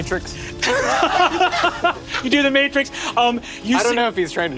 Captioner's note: laughs